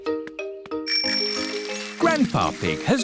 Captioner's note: bell rings